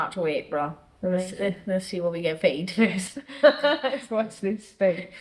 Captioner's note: laughs